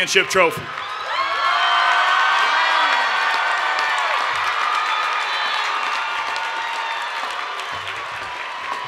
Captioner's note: cheering and Applause